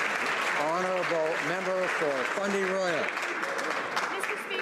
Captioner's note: some Applause